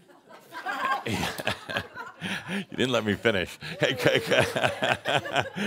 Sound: some chuckles; chuckles

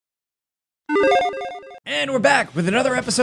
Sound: power up beeps

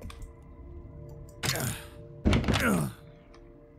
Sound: John Grunts

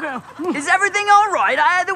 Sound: in British accent

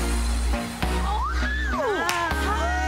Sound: screaming

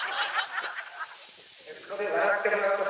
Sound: laughs

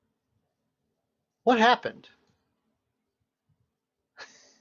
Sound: laughs

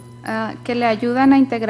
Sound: speaking foreign language

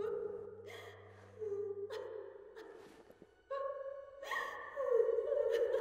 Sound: distant weeping; melancholic piano music

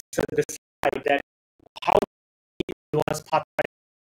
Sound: audio stuttering

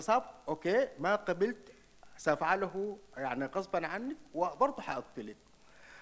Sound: speaks in foreign language

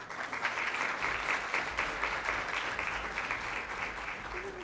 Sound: audience applauds

